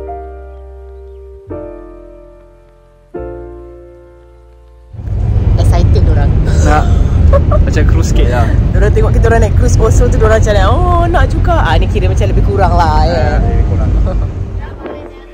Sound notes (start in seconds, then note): 0.0 background music; 6.6 laugh